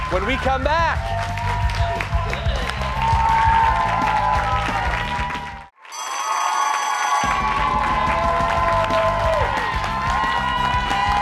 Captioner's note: cheers and applause